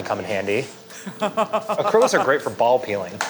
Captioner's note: laughs